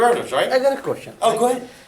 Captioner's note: voiceover